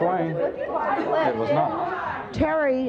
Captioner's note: audience yelling